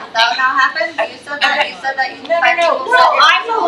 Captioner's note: faintly speaking